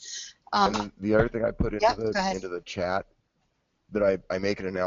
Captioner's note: voiceover